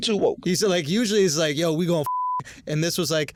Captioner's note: beep